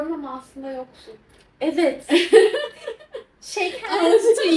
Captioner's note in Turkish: kahkaha